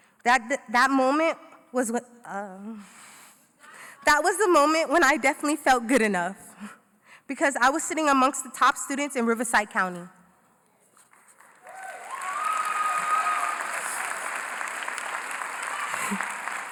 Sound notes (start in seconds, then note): 11.4 cheering & Applause